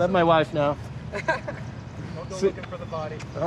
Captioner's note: men laughing